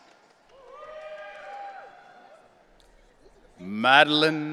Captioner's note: audience cheering